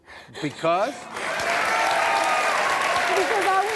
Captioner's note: audience cheering